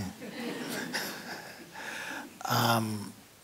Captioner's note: laughter